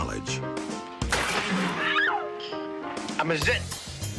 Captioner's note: woman screaming